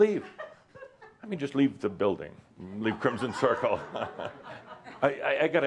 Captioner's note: some laughter